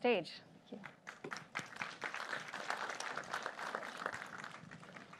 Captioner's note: applause